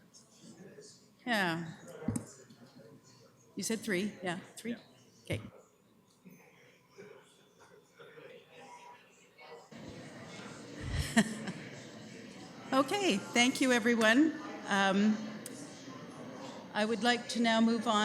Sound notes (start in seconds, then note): 10.0 background chatter